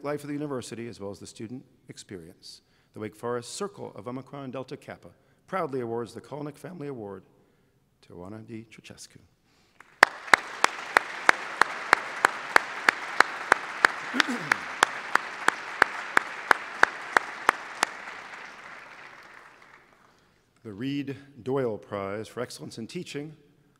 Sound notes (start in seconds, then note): 9.7 applause